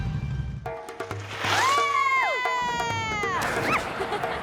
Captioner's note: cheering